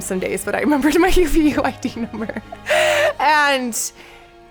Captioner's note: laughing